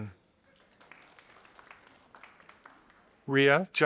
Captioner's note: audience applauding